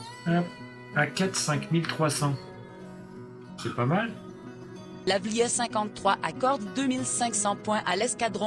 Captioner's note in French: Voix off